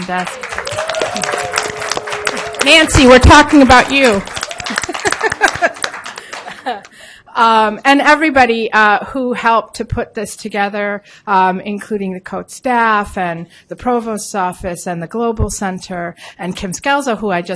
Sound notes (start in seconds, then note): 0.0 applause; 4.6 laughs